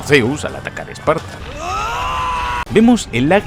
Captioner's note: screams